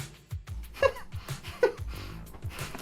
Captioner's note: chuckles out of insanity